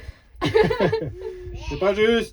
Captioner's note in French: rires